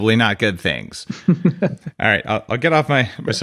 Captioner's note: laughs